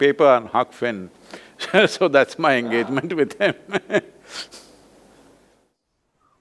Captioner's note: laughs